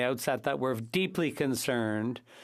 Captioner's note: speaking French